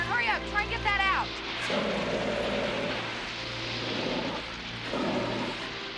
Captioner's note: fire extinguisher whooshing